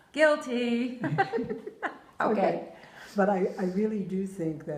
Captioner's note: laughter